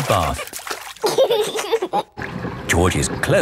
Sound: giggling

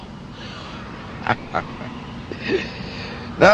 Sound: laughs

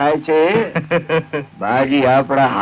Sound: laughs

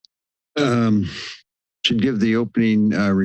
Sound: inhales

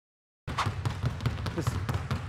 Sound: balls thudding

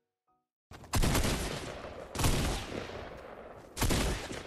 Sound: gun shots

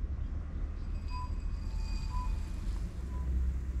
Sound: wind blowing

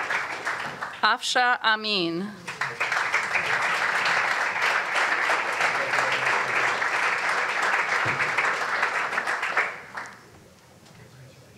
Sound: applause; applause

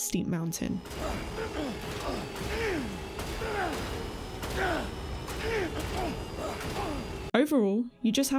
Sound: Sam grunting and exclaiming repeatedly

